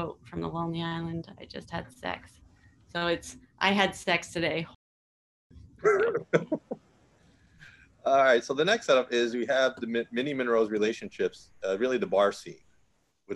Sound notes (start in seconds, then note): 5.8 laughing